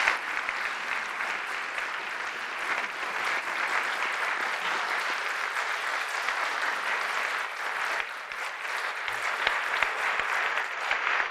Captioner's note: applause